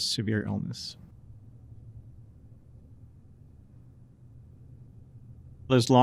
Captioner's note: silence